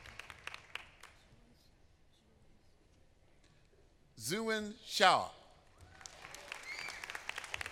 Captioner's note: applause